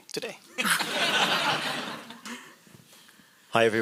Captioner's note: audience laughs